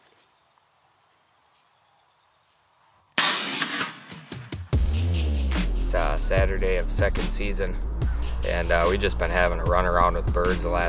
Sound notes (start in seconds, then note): 3.2 gun roars; 4.1 upbeat rock music